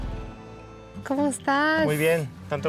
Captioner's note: speaking Spanish